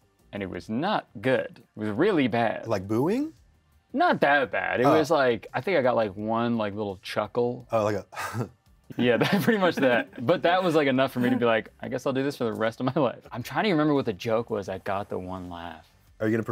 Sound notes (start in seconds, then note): 9.0 chuckles